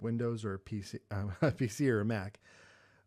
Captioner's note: chuckles